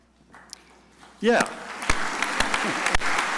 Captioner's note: crowd applauding